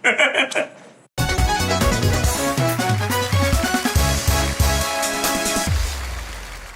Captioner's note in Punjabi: ਤਾੜੀਆਂ